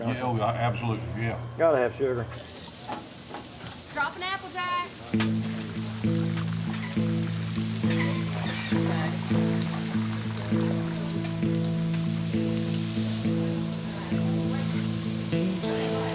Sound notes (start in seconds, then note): 2.1 sizzling; 4.8 guitar music